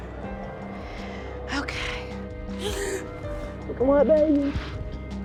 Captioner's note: cries